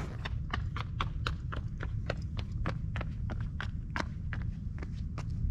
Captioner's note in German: Schritte nähern sich